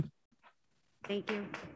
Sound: clapping

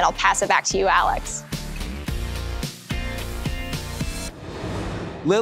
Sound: transition whooshes

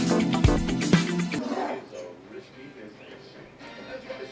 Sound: funk music; tv playing in the background

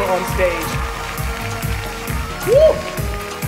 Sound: cheers and applause

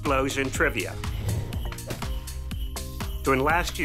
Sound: whoosh; splat

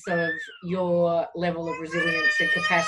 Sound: baby cooing; baby crying

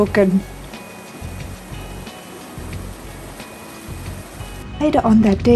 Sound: sound of rushing water

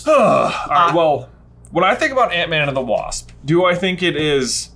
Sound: groans

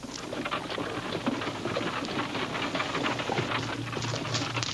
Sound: wagon rattling

